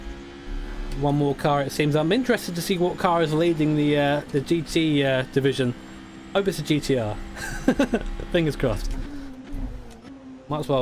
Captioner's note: laughs